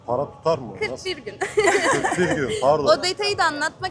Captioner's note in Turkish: kahkaha